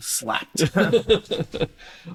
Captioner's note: laughter